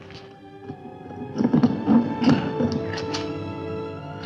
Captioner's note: mysterious music continues; ax rasping